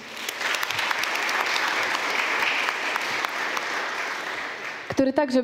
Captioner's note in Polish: oklaski